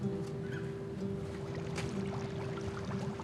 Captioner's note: water bubbling